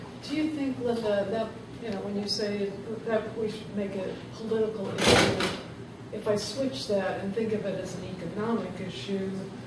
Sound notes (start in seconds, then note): 5.1 loud bangs